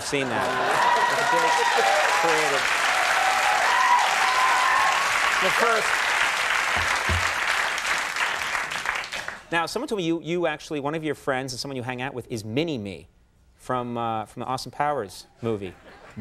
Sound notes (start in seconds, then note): 0.0 audience laughing and clapping